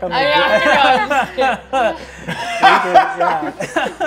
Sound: all laughing

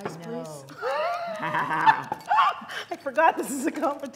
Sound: laughing

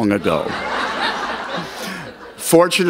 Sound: laughter

